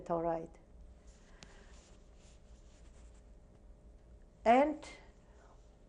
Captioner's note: pauses for 3 seconds